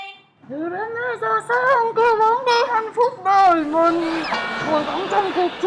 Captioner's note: laughing